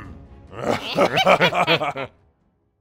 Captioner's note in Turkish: Gülme sesi